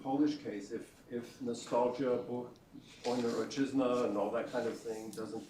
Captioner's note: non-english speech